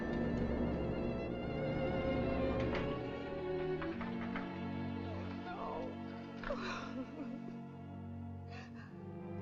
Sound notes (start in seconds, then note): 6.4 sobbing